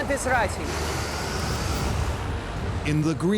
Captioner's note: wind howling